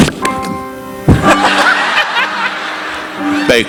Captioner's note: clapping hands; audience laughing; participant laughing